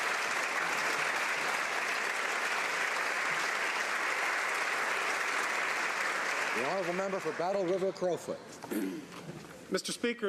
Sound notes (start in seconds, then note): 7.4 some applause